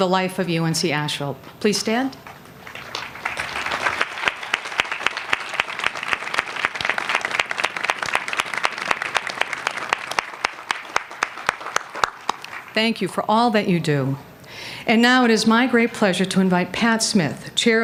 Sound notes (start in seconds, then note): 2.6 applause